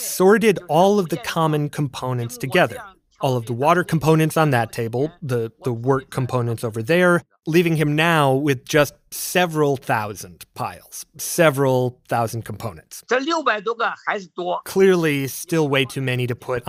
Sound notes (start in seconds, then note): 13.8 speaking Mandarin